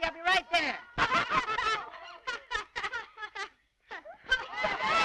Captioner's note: laughter